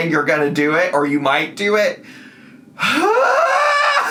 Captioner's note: yells